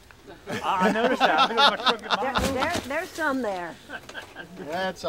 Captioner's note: group laughter